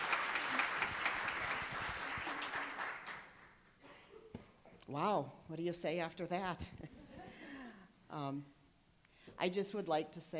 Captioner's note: applause